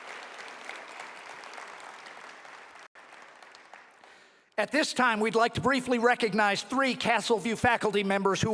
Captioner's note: applause